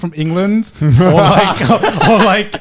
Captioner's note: Conner and Joey laughing